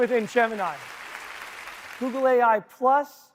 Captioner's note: audience applauding